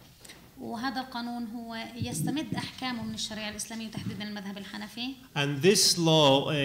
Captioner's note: speaking arabic